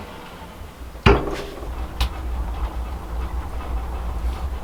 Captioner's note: metal clanking